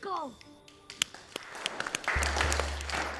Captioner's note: applause from the crowd